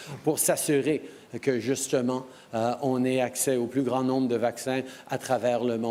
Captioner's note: speaking french